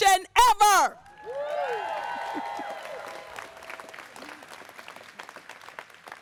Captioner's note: audience cheers and applauds